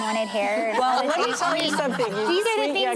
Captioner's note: laughter